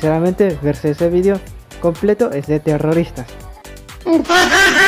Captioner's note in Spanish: mujajajajajaja